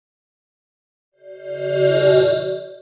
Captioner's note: swoosh